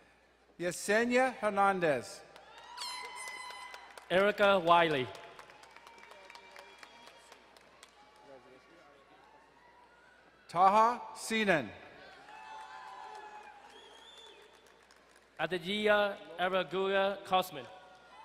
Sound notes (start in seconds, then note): 2.5 horn hooting, crowd cheering; 5.5 distant cheering; 11.9 crowd cheering and applauding; 18.0 distant cheering